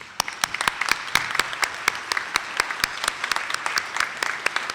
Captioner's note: attendees clapping